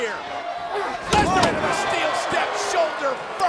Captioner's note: body thuds